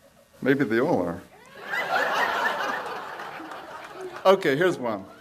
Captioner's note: audience laughs